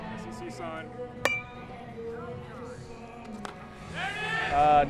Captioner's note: bat hits ball